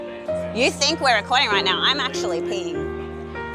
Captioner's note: none